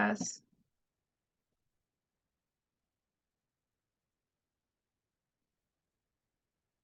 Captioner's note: silence